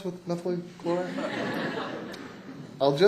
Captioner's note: laughter